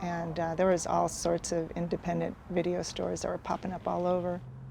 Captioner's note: none